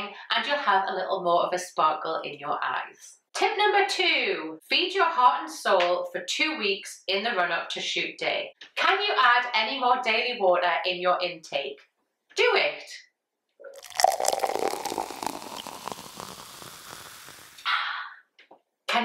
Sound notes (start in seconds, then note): 13.7 water sloshing